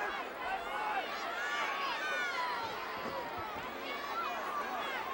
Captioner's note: audience shouting